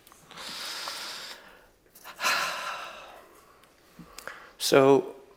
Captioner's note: breathes deeply, inhale and exhale